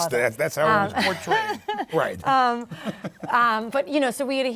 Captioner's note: laughter